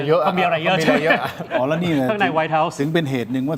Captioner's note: laughter